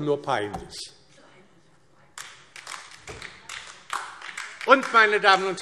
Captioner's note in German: Beifall DIE LINKE